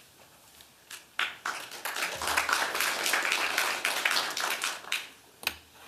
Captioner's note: applause